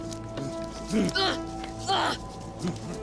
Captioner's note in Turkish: Osman bağırıyor